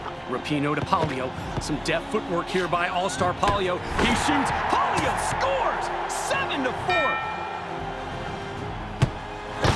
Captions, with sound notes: Rapinoe to Palio. Some deft footwork here by All-Star Palio. -He shoots, Palio scores! 7 to 4. -[score dings]